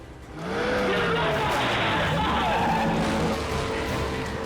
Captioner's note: car engine revs